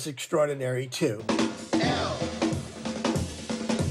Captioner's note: soundbite of tv show, "sesame street"